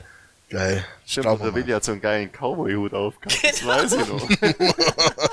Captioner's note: laughter